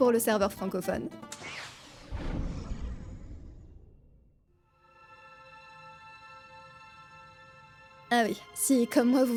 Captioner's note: menu sounds and background music